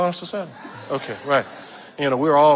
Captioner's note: audience laughing